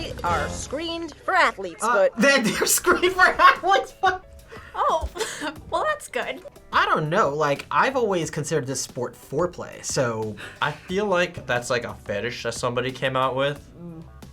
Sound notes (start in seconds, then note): 2.1 laughs